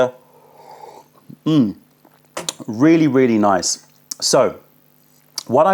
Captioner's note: sips tea